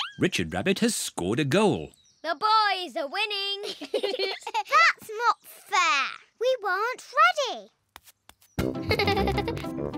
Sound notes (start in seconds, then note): 3.6 both laugh; 8.8 giggles